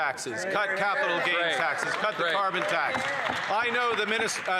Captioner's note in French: voix de l'interprète